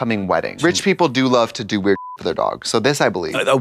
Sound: beep

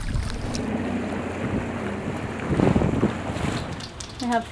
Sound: strong wind blowing

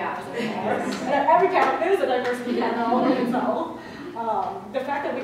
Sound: slow claps

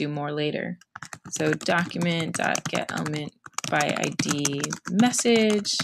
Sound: typing

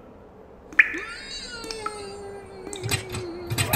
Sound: more muffled screaming

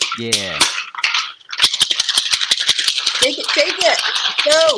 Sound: ice clacking

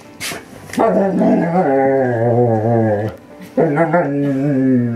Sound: dogs growling and moaning

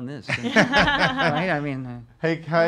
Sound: laughing

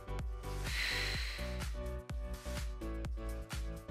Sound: exhales

